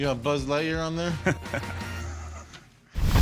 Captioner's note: laughter